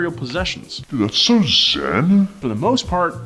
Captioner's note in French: distorsion ralentie